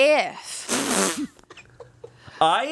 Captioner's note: laughing